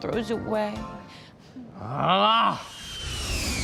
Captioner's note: groans